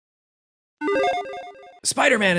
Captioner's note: logo beeps